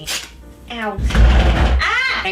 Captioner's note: general chaos